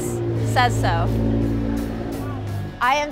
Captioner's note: car engine rumbling